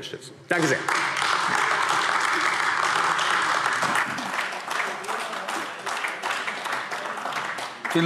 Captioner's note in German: Beifall AfD